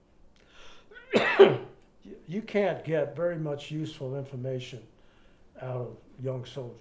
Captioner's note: coughs